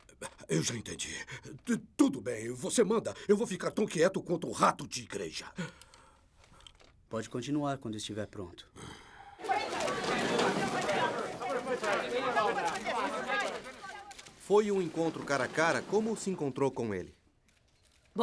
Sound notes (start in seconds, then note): 9.4 chatter